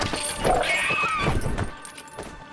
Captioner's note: dragon cries out